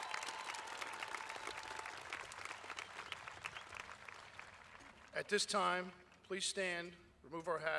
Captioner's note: applause